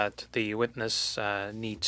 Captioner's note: speaking French